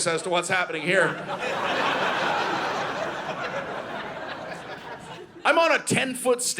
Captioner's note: audience laughing